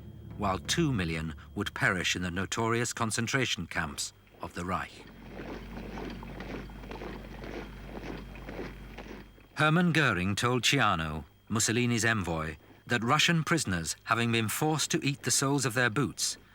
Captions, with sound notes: while two million would perish in the notorious concentration camps of the Reich. (boots thudding) Hermann Goering told Ciano, Mussolini's envoy, that "Russian prisoners, having been forced to eat the soles of their boots,